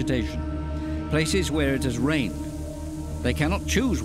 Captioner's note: locusts fluttering